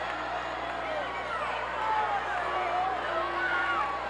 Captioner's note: crowd boos